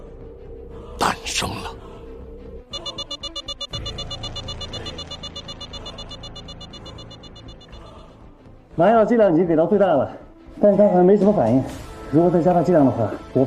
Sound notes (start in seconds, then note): 2.7 alarm